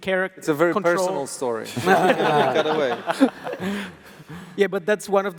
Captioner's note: laughs